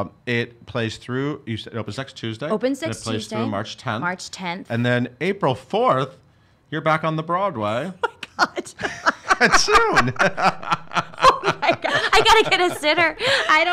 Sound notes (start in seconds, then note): 8.0 laughs